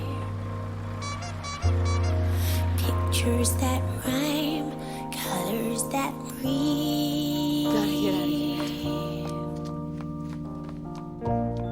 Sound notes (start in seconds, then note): 0.0 horn squeaking